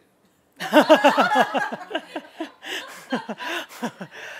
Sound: laughter

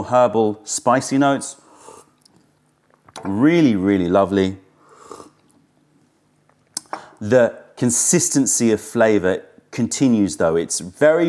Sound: sips tea

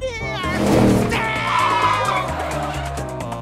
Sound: screaming, tires screeching

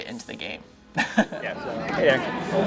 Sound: laughing

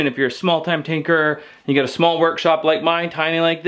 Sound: none

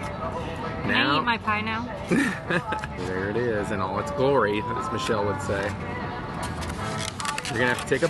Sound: laugh

